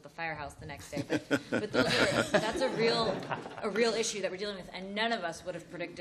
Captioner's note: laughter